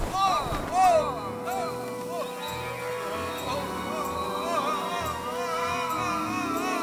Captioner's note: yelling loudly as they fall